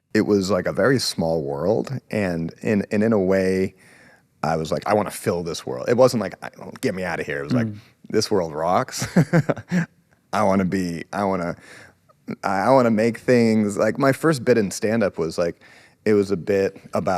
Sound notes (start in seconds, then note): 9.0 laughs